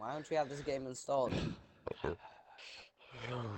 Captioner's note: sigh; big sigh